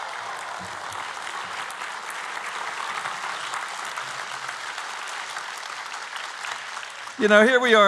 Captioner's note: applause